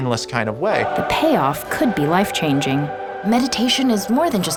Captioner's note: voiceover